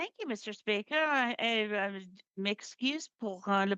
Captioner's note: speaking French